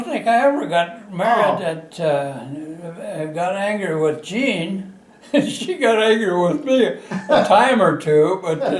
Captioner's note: laughter